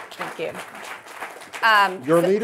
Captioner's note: audience applauding